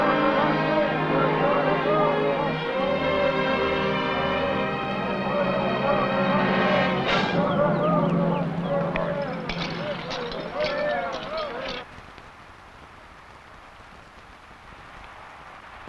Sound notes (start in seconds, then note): 0.3 men chanting; 8.6 buckles rattling